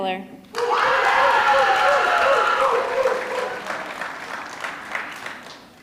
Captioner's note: audience clapping; audience screaming